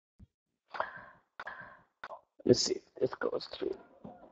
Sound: microphone adjustments

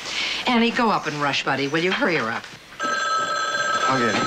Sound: phone ringing

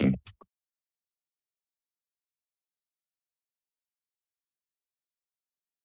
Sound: silence

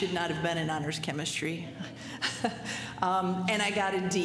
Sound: laughter

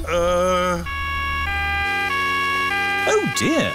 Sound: siren wailing

